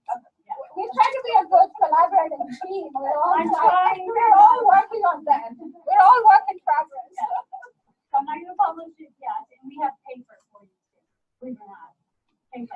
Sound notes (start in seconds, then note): 0.0 classroom Laughter; 3.3 overlapping laughter and talking